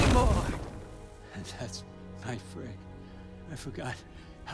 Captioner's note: laugh